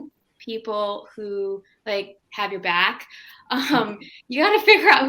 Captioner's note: laughing